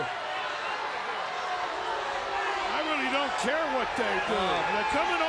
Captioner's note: crowd chatter